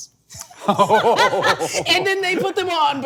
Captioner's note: laughing